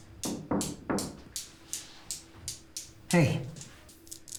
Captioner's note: hand rapping